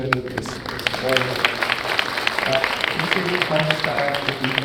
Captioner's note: clapping hands